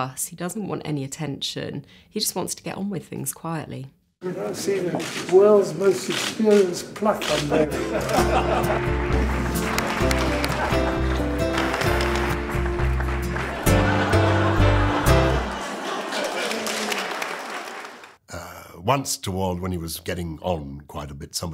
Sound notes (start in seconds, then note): 7.2 many laughing; 7.9 audience applauding